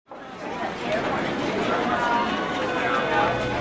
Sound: crowd noise

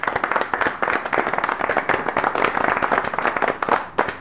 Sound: applause

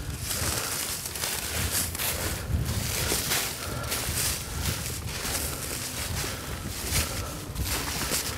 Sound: rustling sounds; wind gusting

